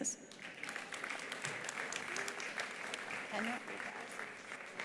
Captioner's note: attendees applauding